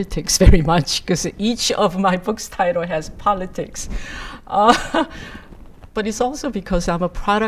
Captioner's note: laughs